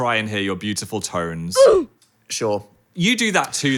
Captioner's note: "Oof" sound effect